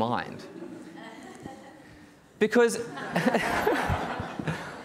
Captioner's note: audience laughing